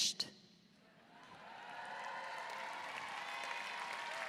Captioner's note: audience cheering